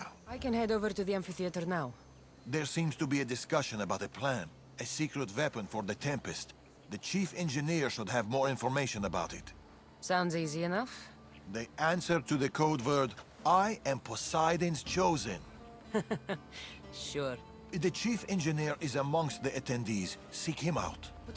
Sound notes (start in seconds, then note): 15.8 laughs